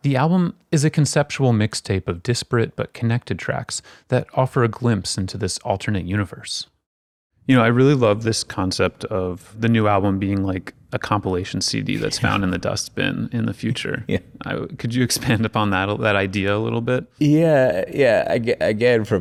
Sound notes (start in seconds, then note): 11.9 chuckling; 13.7 chuckling